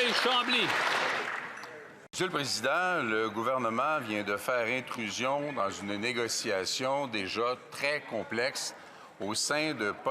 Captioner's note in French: applaudissements